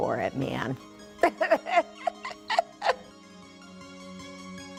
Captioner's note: laughing; soft music